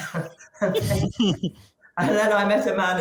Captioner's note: chuckles